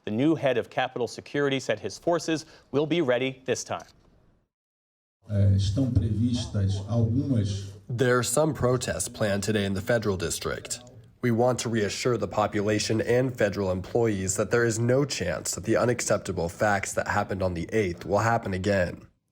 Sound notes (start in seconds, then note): 6.7 through translator